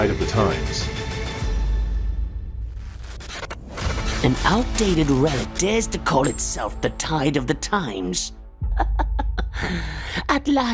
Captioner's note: laughs